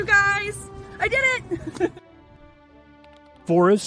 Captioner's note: chuckle